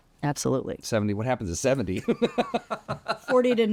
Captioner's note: laughs